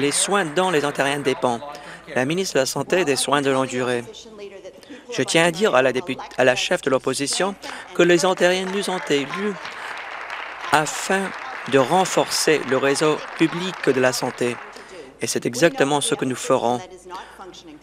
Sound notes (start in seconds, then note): 1.8 applause